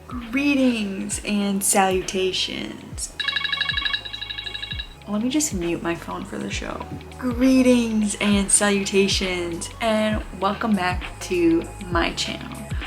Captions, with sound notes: Greetings and salutations! *phone rings* Let me just mute my phone for the show. Greetings and salutations and welcome back to my channel.